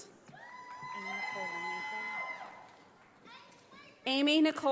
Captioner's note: audience applauding